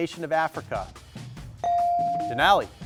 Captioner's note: buzzer dings